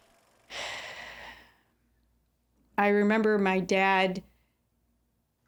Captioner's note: sighs